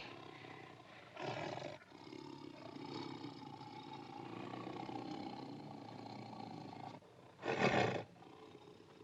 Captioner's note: tiger growling